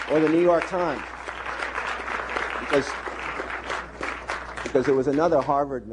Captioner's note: applause